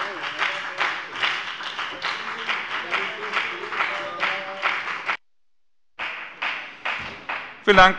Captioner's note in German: Beifall bei der FDP